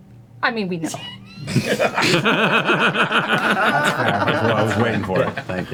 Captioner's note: all laugh